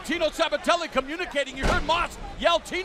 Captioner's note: crowd chatter